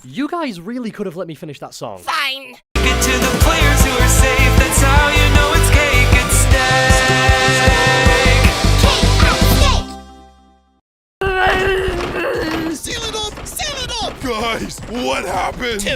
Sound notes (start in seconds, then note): 11.2 angry babbling